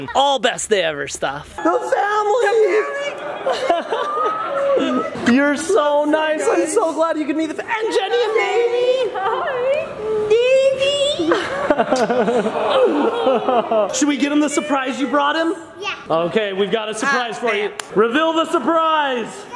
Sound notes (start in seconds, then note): 2.7 people cheering and laughing; 11.3 laughing